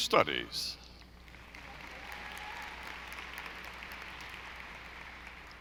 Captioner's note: audience applauding